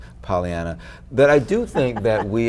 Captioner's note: chuckling